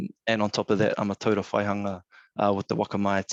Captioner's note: speaking in foreign language